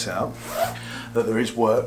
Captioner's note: zipper zipping